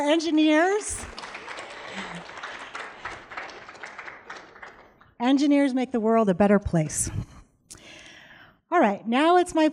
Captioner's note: applause